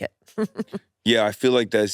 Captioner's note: laughs